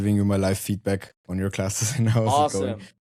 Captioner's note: chuckles